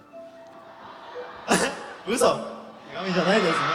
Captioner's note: ARMYs laugh; laughs